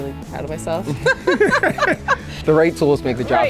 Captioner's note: laughs